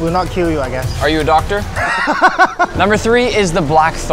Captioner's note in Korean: 웃음